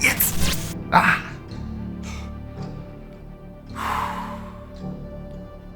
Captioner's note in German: schweres Atmen